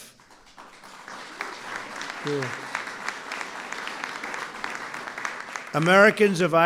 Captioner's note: applause